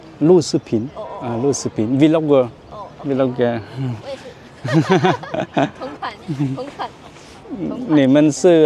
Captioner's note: laughter